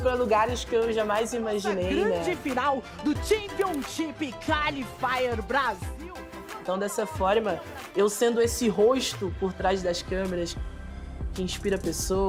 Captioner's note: speaking non-english language